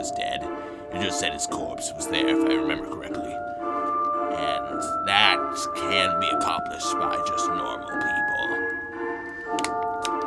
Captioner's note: coughs